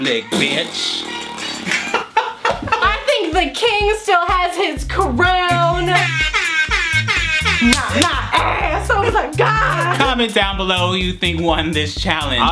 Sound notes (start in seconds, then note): 0.3 raspberry; 1.5 laughing; 5.8 air horns